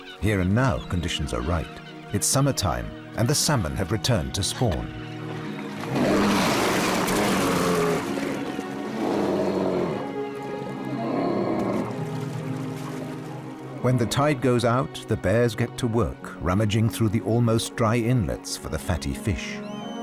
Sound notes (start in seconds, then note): 5.8 growls; 8.8 snarling